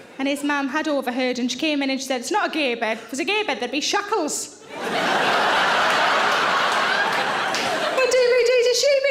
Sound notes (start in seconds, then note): 4.6 audience laughing